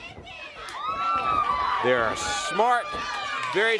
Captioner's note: crowd chatter